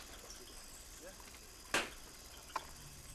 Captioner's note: pop!